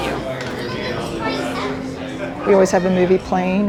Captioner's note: bar patrons chatting